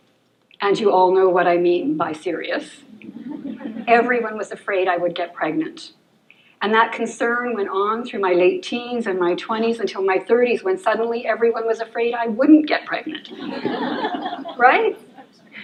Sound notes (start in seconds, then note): 3.0 laughter; 13.2 laughter